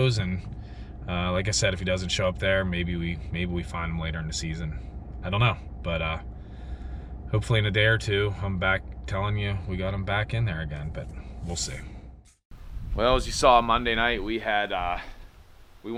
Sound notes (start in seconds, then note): none